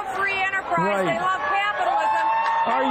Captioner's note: crowd cheering loudly